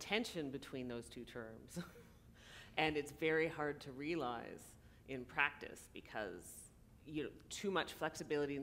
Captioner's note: laughter